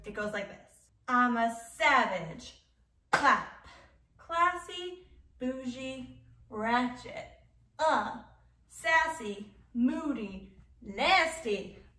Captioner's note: clap